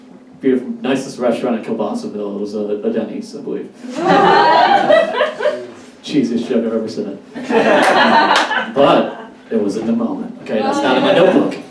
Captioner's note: audience Laughs